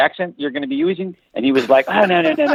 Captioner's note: laughs